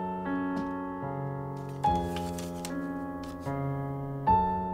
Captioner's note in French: none